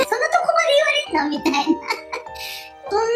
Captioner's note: laughs